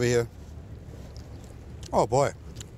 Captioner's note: chewing